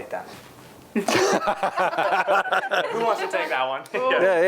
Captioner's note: laughing